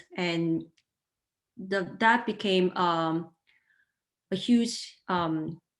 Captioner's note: none